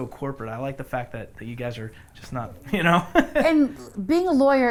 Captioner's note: laughs